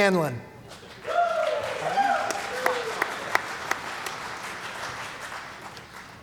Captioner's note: cheering & Applause